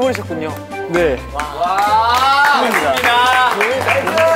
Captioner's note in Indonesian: tepuk tangan